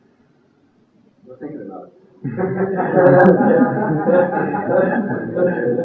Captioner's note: laughter